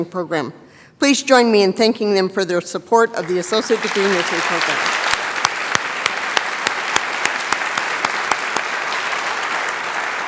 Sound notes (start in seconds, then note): 5.0 applause